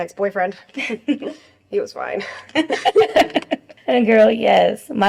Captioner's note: Jen and Claire laugh